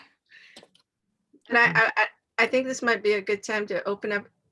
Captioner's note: laughs